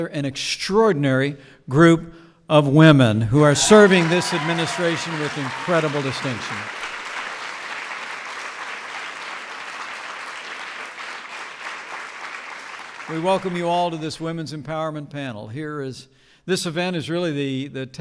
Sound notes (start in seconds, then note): 6.4 applause